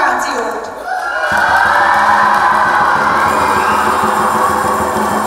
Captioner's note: everyone cheers